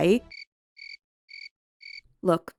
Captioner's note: crickets